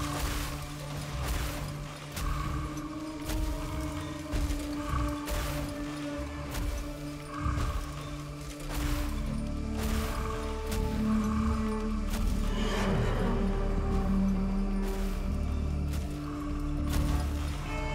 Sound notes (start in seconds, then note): 3.3 thumping; 9.2 ominous music